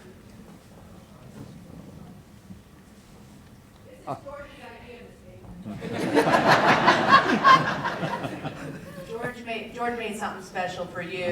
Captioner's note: applause